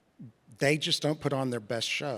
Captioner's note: none